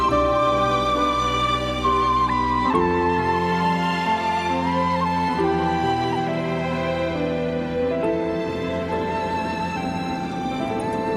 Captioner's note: thunder